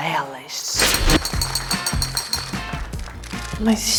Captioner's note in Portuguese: aplausos